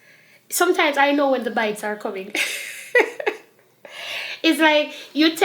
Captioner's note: laughs